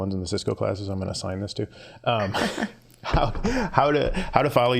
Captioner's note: scattered chuckling